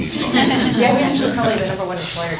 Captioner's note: laughing